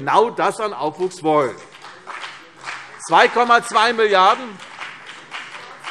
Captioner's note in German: Beifall CDU und BÜNDNIS 90/DIE GRÜNEN